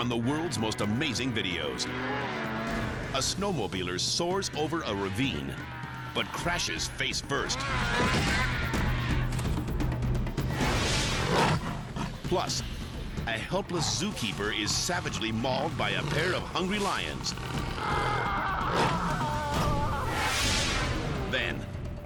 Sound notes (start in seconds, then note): 0.0 snowmobile buzzing; 7.3 dramatic music; 10.5 air whoosh; 11.0 lion growing; 17.4 lions growling; 17.7 man screaming; 19.7 air whoosh